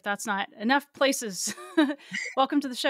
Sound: chuckles

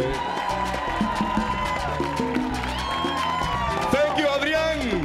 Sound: audience cheering

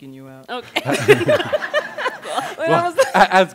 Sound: laughter

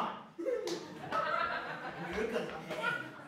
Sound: laughter

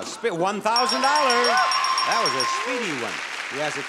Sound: sound effect ringing; audience cheering

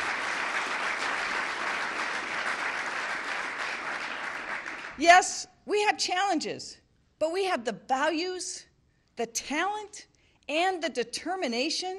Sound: applause

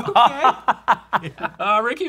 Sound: laughing

